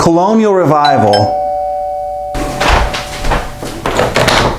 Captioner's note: bell dings